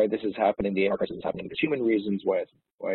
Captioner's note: audio distorts